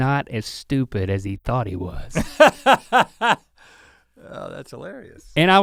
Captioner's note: Rhett laughs